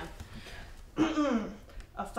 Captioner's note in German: räuspert sich